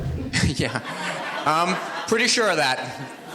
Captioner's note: audience laughs